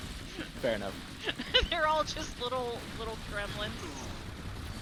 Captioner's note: laughs